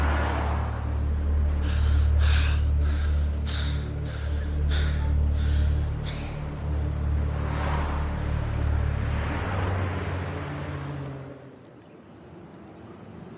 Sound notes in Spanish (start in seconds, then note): 1.4 Ricardo respira agitado